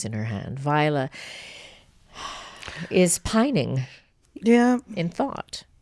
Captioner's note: sighs